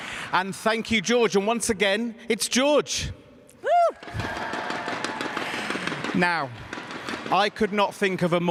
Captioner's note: cheers and applause